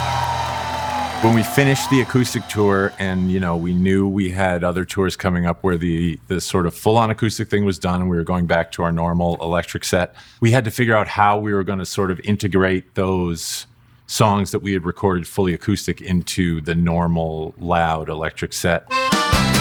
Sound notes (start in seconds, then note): 0.0 crowd cheering